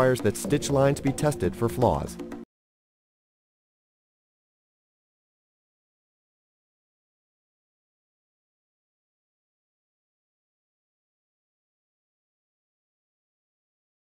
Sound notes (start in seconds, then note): 3.0 silence